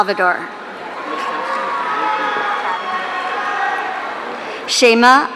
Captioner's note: audience cheering